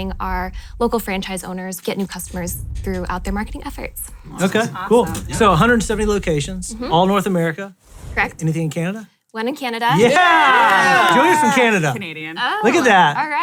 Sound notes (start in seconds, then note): 9.9 all cheer